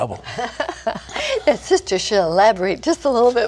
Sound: laughter

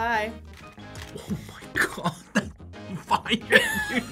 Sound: laughs

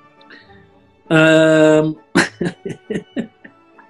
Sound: chuckling

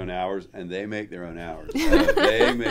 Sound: laughing

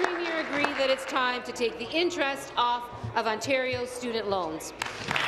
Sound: applause

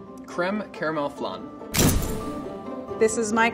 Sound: flash bulb popping

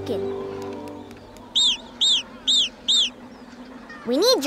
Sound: squawking

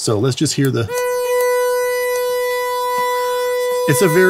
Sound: ringing

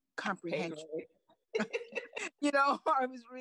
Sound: laughs

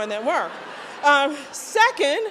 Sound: laughter

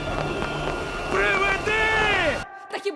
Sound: rallying calls continue; yelling

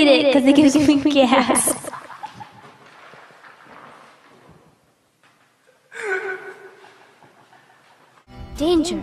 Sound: laughter

